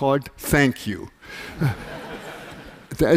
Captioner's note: laughter